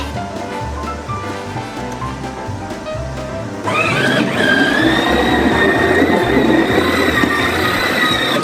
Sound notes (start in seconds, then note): 4.2 sled engine driving